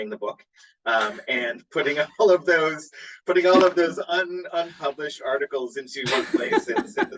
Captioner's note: chuckles; laughs